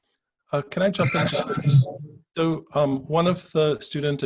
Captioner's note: audio distorts